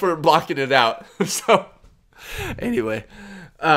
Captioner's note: laughs